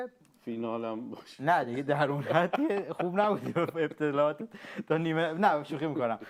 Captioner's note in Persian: خنده